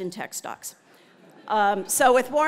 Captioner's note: laugh